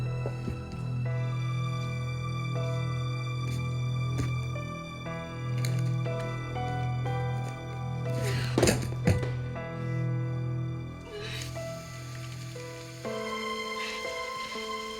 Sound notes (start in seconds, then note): 8.1 gasping; 11.0 water runs